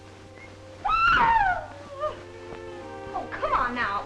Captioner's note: gentle music; Minerva shrieks